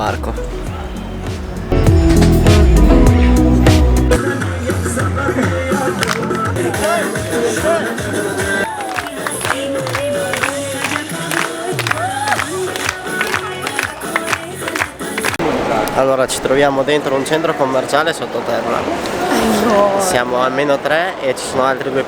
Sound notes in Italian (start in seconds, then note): 5.5 Applauso